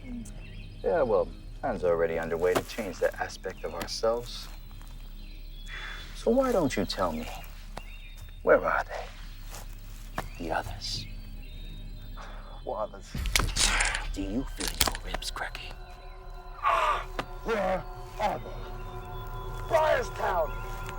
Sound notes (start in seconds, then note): 11.5 intense music continues; 16.6 soldier groaning; 17.0 intense music continues